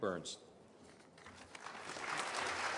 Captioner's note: applause